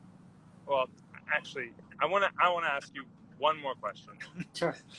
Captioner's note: laughs